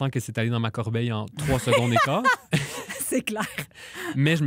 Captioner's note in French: rires